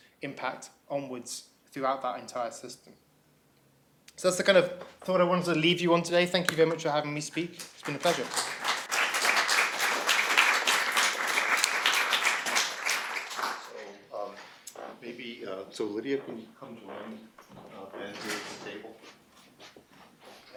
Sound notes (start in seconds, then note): 8.9 applause